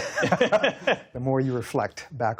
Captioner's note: laughter